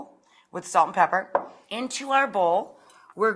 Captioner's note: bowl clunks